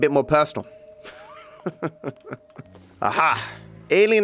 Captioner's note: laughs